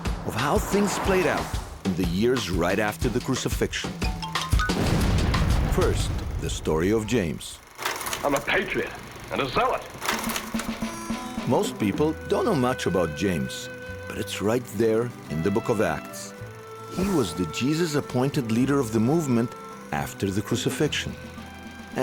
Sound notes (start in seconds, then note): 4.1 playful music; 4.7 exploding; 7.7 tape rolling; 10.4 drum rolling; 10.9 gentle music